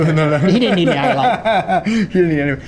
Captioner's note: Timothee laughing